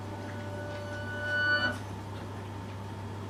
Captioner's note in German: Lautes Geräusch